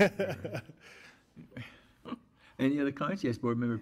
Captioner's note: audience laughs